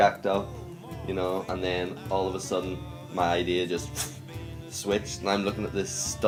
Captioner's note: woosh